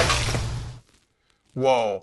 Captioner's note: crash